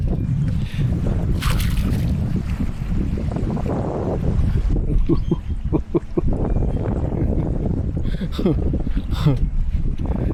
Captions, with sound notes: Thank you, baby, muah! [Giggling, Laughing]